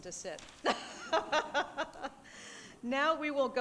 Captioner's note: laughing